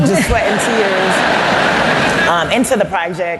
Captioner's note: laughter